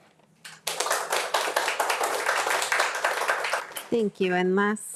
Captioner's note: attendees applauding